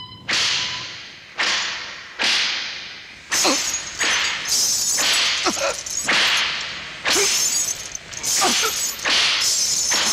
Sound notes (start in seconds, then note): 2.2 whipping